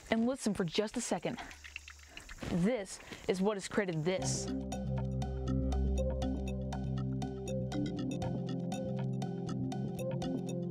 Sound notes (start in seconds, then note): 0.7 water dripping; 5.7 inspiring music